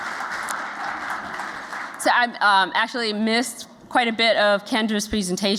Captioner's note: applause